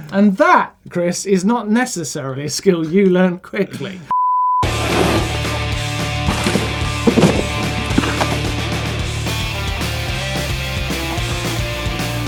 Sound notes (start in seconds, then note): 4.1 beep; 4.6 rock music